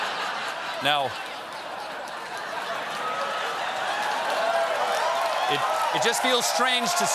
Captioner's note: laughter; cheers and applause